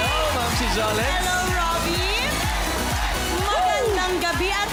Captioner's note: cheering